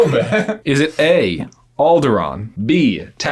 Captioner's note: both laughing